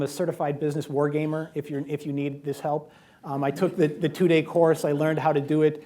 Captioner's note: laughter